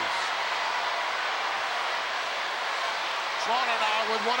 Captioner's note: crowd yelling